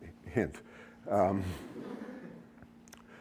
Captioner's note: laughter